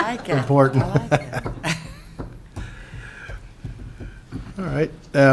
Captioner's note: laughs